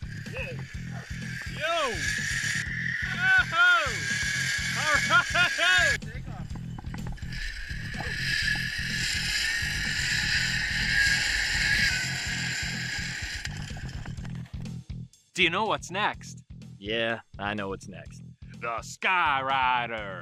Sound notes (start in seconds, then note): 0.0 rhythmic drumming; 0.3 metallic scraping sound; 4.7 laughing; 6.0 male Voice; 7.2 metallic scraping sound